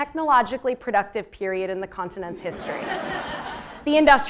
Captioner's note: laugh